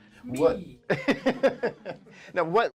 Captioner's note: laughs